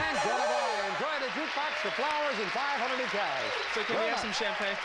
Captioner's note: audience applauding